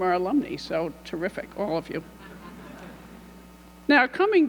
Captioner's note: audience laughing